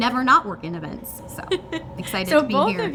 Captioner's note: laughing